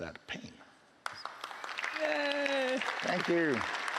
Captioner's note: applause